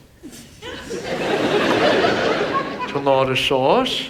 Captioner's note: audience laughs